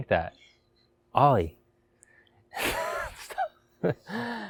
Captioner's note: laughing